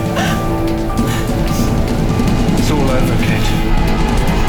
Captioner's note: Katie gasping